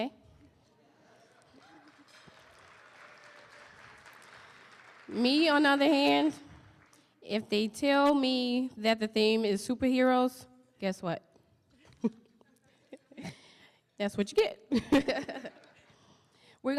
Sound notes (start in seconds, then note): 1.4 applause; 11.8 laughing; 15.3 audience laughing